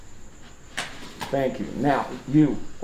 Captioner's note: gun clatters